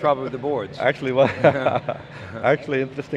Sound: laughs

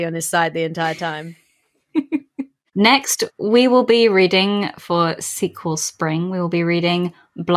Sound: laughs

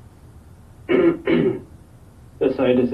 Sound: clears throat

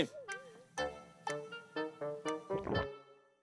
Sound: hesitant

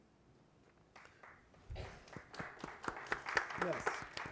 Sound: audience applauding

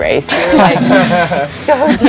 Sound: everyone laughs

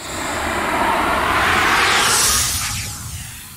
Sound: wind whooshing

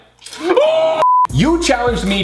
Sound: howling

